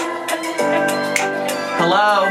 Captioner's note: snapping